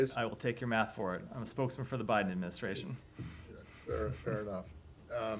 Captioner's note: laughter